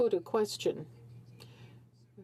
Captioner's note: speaking French